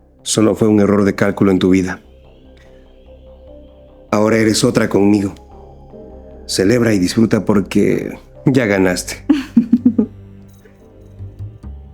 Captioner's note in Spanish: risas